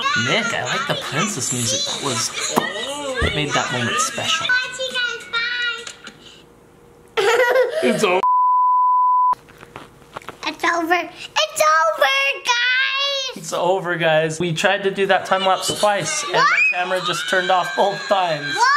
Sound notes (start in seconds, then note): 3.0 pop; 8.2 beep